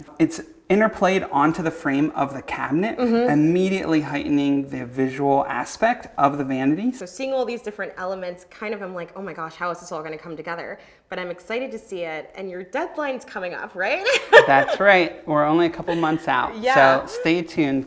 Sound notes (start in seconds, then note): 14.0 laughs